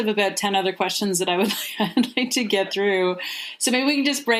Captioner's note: chuckles